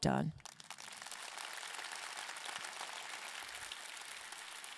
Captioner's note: audience clapping